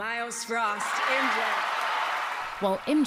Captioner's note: cheering and applause